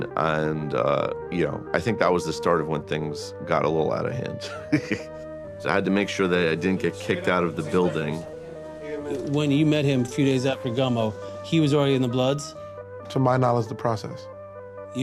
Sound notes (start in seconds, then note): 4.2 chuckles